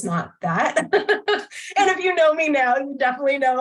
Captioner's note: laughter